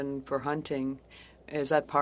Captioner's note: speaking French